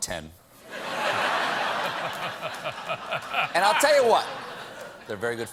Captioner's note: laughter